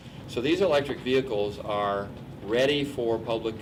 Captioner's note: none